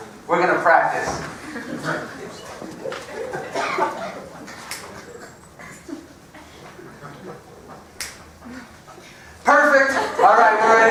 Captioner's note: laugh